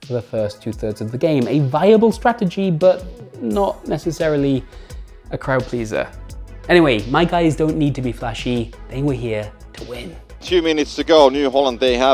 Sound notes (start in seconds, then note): none